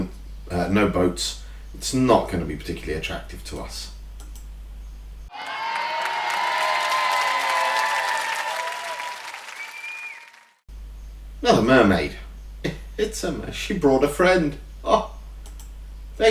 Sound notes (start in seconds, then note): 5.3 cheering; 8.2 clapping